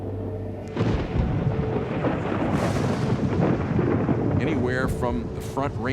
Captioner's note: thunder roaring, wind howling